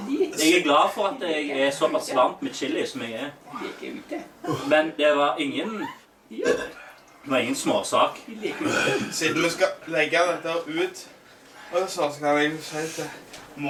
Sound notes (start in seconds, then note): 6.4 burp